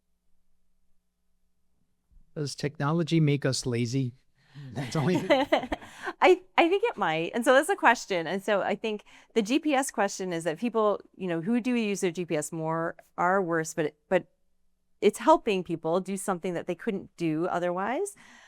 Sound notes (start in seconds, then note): 4.6 laughs